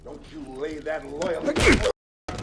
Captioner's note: punch thuds